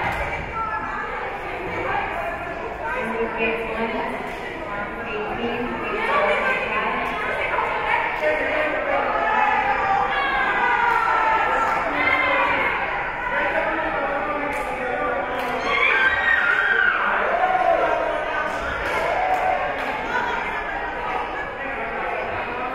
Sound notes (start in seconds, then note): 0.2 spectators and teams chattering; 8.7 team cheering; 15.1 team cheering; 18.3 spectators and teams chattering